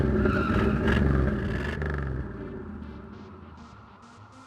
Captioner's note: engine revving; tires screeching